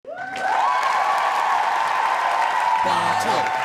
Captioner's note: cheering